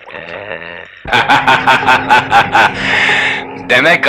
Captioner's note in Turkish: Kahkahalar